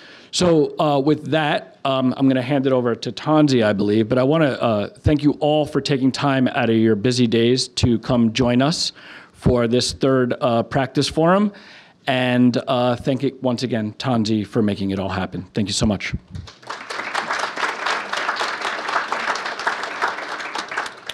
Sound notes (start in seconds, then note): 16.4 applauding